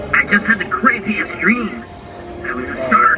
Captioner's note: Robotic voice